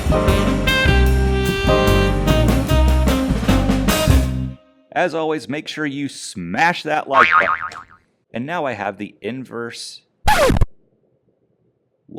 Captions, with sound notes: As always, make sure you smash that like but— *boing* And now I have the inverse— *record scratch* *confused silence*